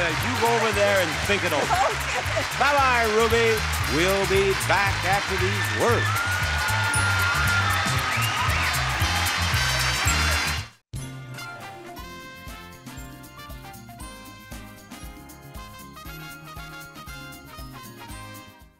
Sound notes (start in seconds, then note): 7.2 audience cheers